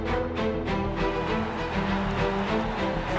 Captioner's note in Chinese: 掌聲